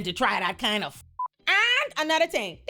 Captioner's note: beep